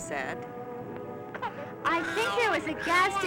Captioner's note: baby fussing